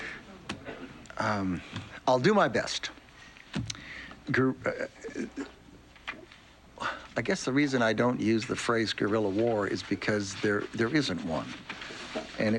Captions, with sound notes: Um, I'll do my best... (stammering) I guess the reason I don't use the phrase "guerrilla war" is because there isn't one,